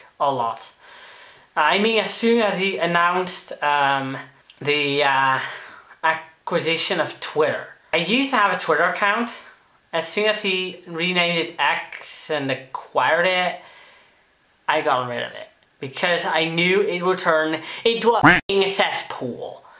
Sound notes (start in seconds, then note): 18.2 quack